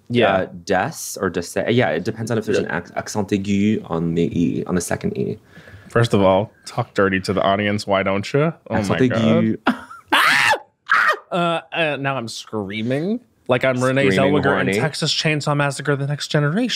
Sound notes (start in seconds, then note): 9.6 chuckles; 10.1 screams